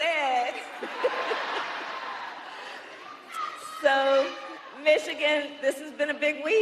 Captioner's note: crowd chanting